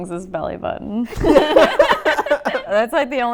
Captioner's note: laughter